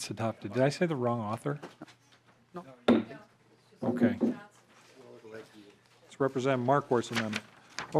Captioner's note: gavel